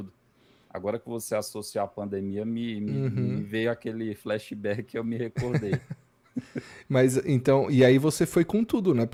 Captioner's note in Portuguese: risadas